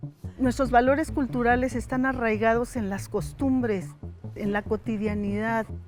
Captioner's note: speaking in foreign language